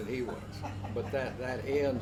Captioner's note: laughs